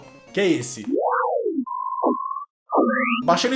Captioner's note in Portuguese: Sons estilo Star Treck